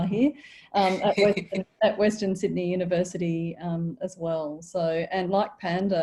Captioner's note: laughs